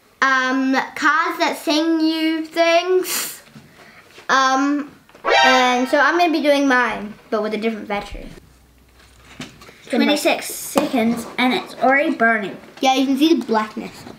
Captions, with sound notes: um, cards that sing you things. Umm, (alert noise) Umm, so I'm gonna be doing mine, but with a different battery. 26 seconds and it's already burning. Yeah you can see the blackness.